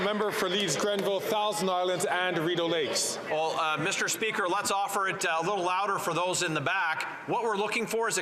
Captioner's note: some Applause